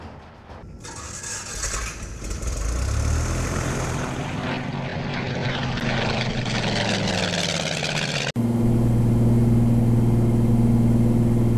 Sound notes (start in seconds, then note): 1.1 airplane engine starting